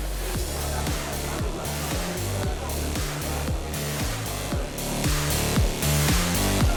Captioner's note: upbeat music; women chattering